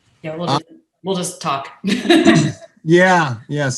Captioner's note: laughs